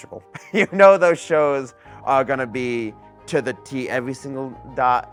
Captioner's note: chuckles